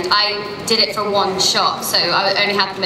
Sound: none

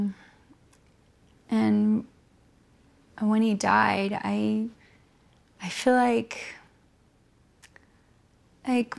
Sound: sighs heavily

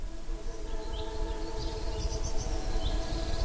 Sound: birds chirping

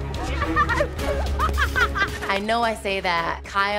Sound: laughing

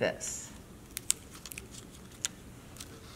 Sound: tape rustling

